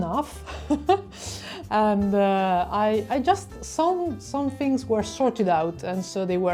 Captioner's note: laughter